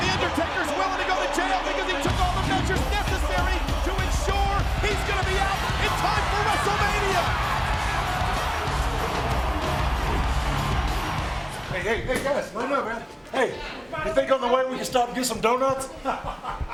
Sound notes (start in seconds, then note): 7.9 crowd cheering; 10.6 upbeat music